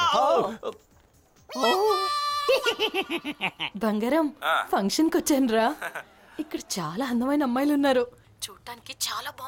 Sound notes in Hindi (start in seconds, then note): 2.5 हँसी